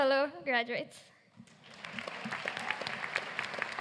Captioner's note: applause